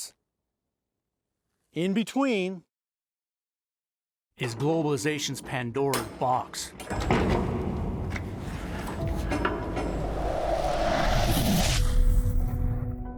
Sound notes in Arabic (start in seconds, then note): 7.0 موسيقى درامية; 7.6 عواء الرياح